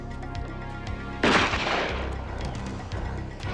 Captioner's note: gun firing